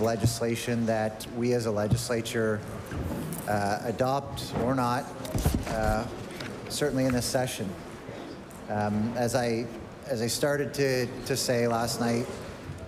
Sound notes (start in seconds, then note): none